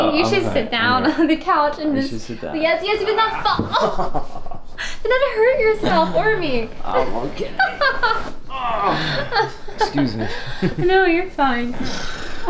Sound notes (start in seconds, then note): 8.8 emma laughs